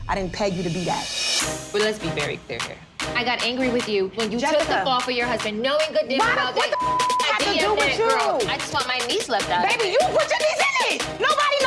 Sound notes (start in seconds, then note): 6.6 beep